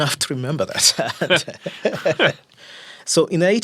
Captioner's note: both laughing